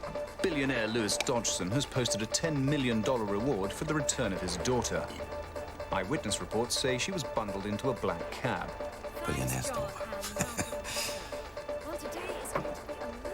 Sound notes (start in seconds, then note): 9.7 chuckles